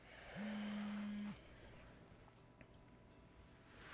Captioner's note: cellphone buzzing